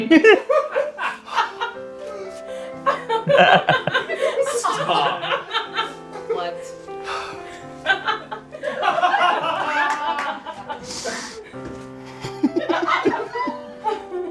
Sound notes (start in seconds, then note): 2.8 laughter; 7.8 laughter